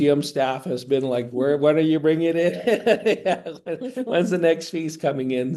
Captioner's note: laughing